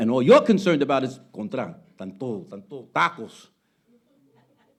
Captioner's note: speaking Spanish